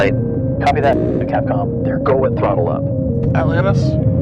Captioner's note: static